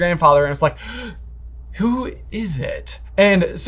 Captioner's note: gasps